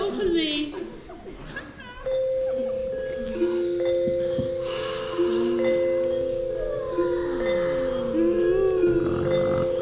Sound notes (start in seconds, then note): 2.0 muted metallic sounds; 5.1 yawns and snoring